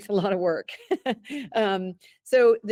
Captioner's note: chuckles